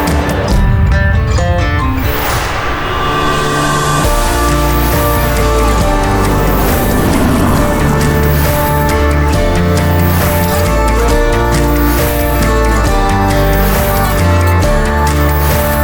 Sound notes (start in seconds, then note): 6.6 car engine humming; 6.6 tires rustling